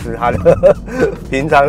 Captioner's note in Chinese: 哈哈哈